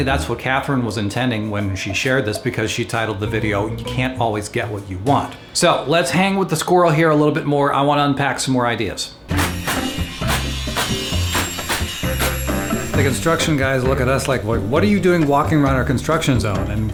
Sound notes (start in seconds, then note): 9.4 tools clanking